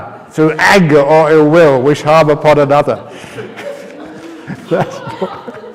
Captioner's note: laughter